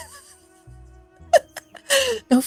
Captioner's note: laughs